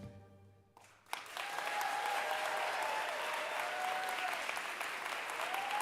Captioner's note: audience cheering applauding